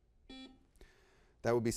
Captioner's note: buzzer beeps